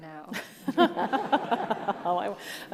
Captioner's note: all laugh